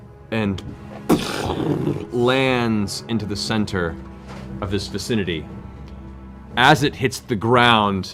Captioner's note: impact sound